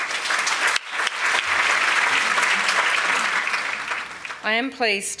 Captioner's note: applause